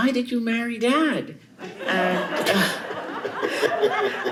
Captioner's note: chuckles